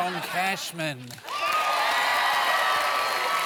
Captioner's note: cheering and applause